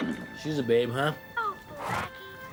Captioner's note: horse neighing